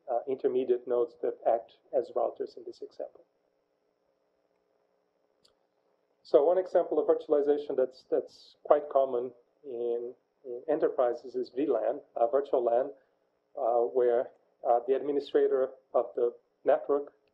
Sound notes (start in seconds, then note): 3.2 pause